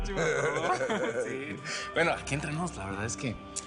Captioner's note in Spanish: Risas